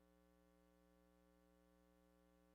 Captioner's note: none